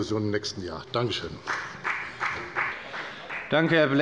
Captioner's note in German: Beifall bei der FDP